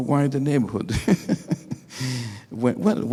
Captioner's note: laughing